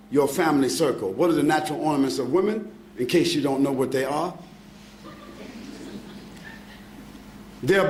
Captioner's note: laughing